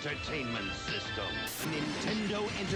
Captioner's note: TV static